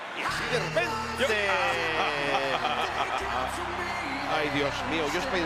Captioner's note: laugh